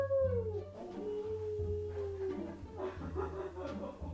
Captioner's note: howls; zander howls back; laughing